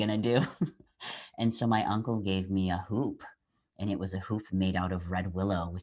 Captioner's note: laugh